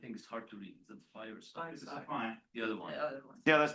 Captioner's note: people chatter